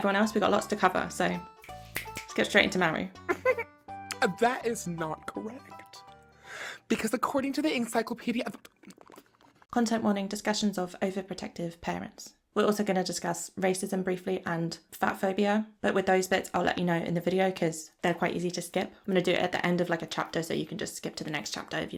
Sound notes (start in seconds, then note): 7.6 mouth sounds